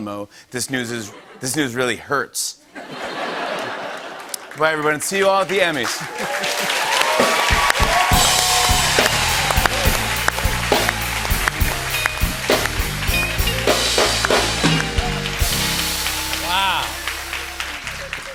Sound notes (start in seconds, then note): 2.7 laughter; 5.8 cheers and applause